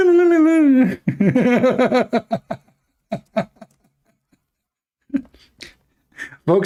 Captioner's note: Ketawa